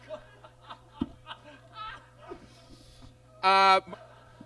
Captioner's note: laughs